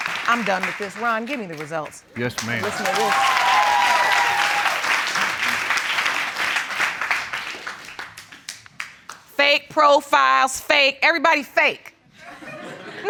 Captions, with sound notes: I'm done with this. Ron, give me the results. Yes, ma'am. (AUDIENCE CHEERING) Fake profiles, fake. Everybody fake.